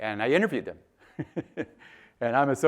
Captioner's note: chuckles